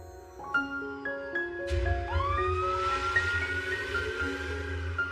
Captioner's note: siren wailing